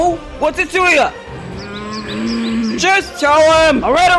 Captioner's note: Toon Link growls